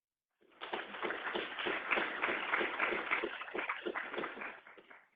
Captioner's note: crowd applauds